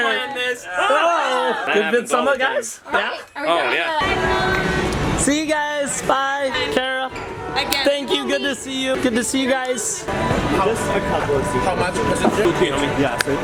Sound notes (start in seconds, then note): 1.0 playful scream